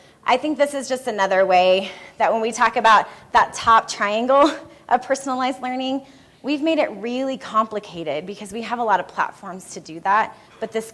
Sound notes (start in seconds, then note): none